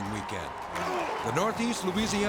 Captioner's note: football player grunts